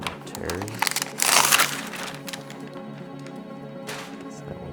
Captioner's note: plastic crinkling